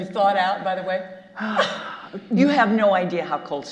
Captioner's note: sighs